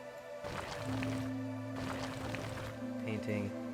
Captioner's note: gravel sounds